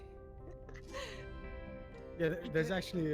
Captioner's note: laughs